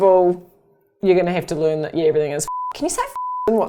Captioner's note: beep